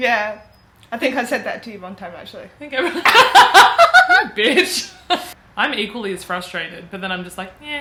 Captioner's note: laughs